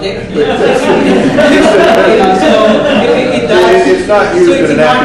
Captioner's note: audience laughs